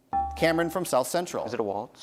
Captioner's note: bell ringing